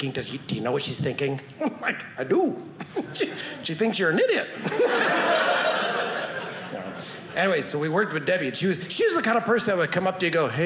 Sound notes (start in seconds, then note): 4.6 audience laughing